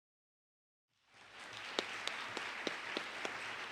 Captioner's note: applause